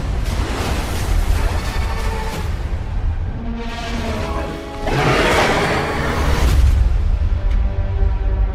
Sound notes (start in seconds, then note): 4.8 dinosaur roars; 6.3 orchestra stabs